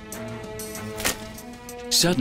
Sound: potatoes thud

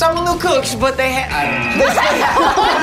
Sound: buzzer buzzes; group laughing

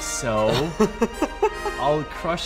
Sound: laughing

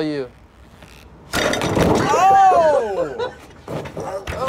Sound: laughs

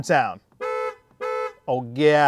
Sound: Volvo horn honking

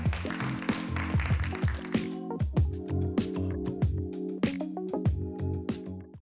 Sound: crowd clapping

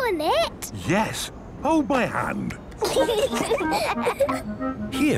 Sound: children giggling

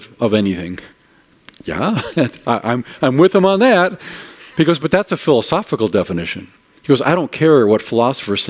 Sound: laughing

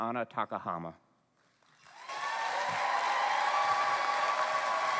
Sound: cheering

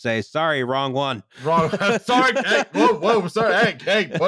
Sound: laughs

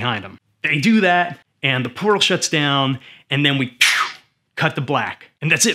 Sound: phew!

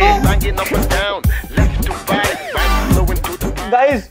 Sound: quarreling

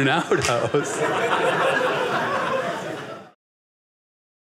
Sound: audience laughing

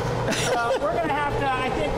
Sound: laughs

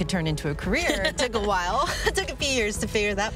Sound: laughs

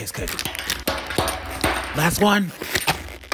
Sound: Beanz twanging; plastic scrunching

